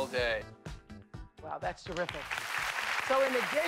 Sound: applause

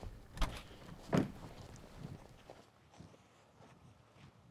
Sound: door slamming

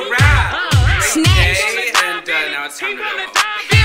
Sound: indistinct chatter

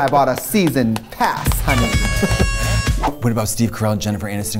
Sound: horn toots

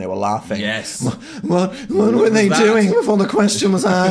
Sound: panting

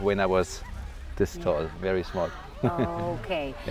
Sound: chuckles

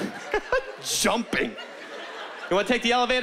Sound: laughing

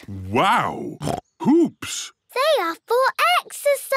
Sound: snorts

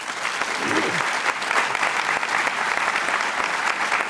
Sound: audience clapping

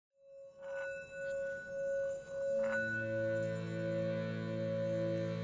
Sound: bell chiming and music

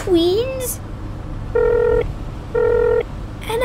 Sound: dialling

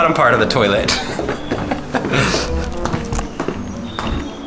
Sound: chuckles

